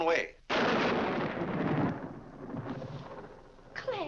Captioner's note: loud thunder